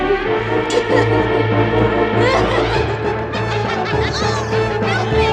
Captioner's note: laughing maniacally